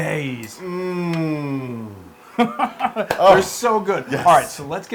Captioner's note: laugh